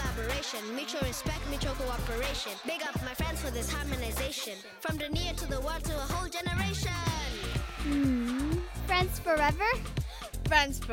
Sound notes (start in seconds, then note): 6.7 cheering